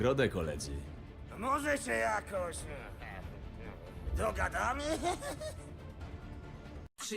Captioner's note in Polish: nerwowy śmiech